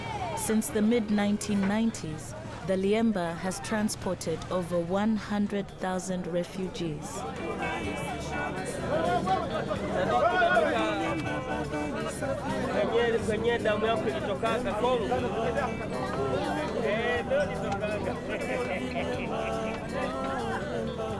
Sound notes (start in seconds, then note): 8.5 passengers chattering; 17.4 energetic music continues; 17.4 passengers chattering